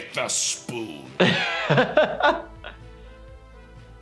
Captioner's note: laughs